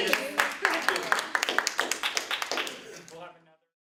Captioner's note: applause